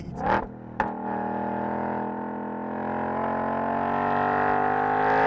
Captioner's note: engine roars with occasional "spits"